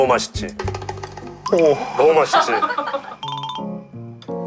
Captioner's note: tearing up